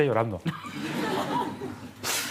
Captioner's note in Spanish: Risas